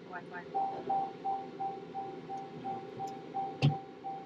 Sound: car indicator continues beeping

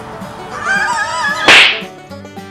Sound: war cry

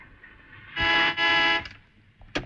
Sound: horn blares

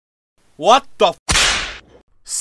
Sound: snap

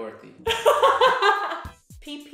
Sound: laughter

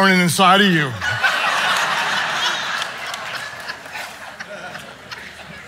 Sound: audience laughing

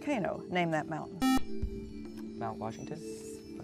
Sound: buzzer

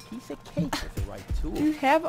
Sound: scoffs

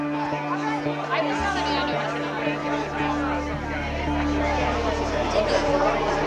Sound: people talking and laughing in background

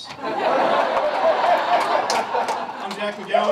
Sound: laughter

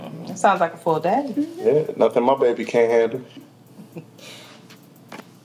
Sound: chuckles

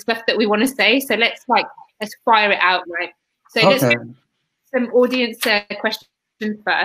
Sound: erm

